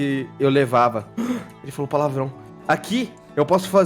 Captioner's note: gasps